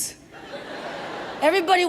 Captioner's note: audience laughs